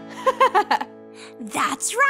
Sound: girl giggles

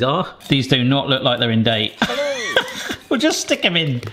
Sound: laughs

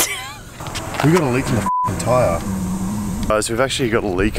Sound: laughing; beep

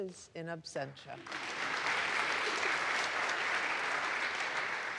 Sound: audience applauds

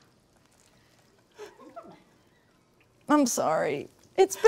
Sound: crew laughing

